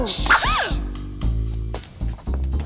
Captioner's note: gasps